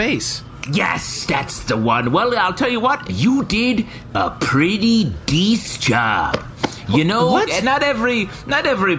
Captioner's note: snaps